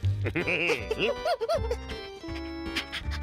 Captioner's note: chuckles